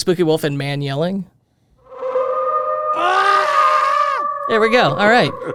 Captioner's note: man yelling; wolf howling